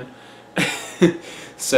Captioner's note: laughs